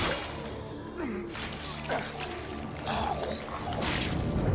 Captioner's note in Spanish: gruñendo